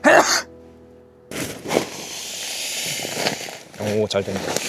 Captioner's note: inflating the sleeping pad